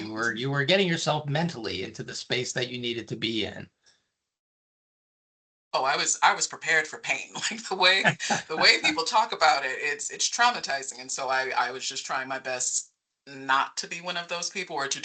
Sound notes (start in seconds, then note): 7.9 chuckling